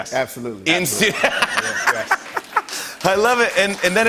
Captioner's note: laughs